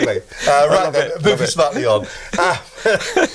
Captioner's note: laughing